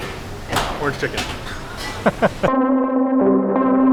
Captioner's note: laughs